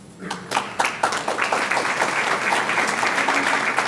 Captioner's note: audience clapping